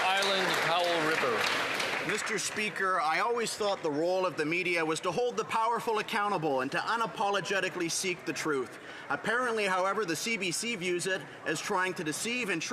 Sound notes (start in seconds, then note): 1.8 some Applause